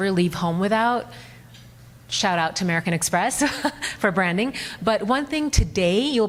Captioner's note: laughs